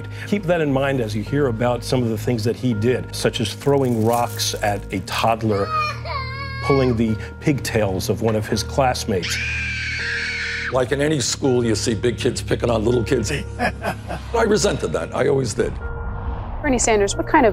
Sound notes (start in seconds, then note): 5.3 child cries; 9.2 girl screaming; 13.5 Trump laugh